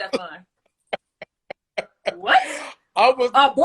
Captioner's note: laughs